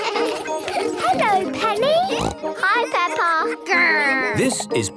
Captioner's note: laughter; snorting